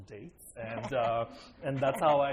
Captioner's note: laughter